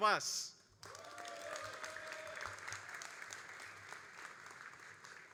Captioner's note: all applauding